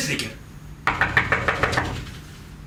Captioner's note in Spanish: llaman a la puerta